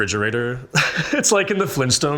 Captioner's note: chuckles